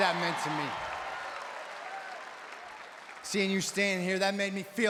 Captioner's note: applause